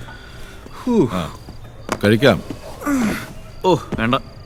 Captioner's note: Kichu sighs